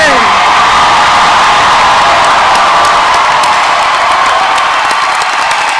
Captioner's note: audience cheering and applauding